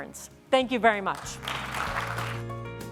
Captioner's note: applause; concluding music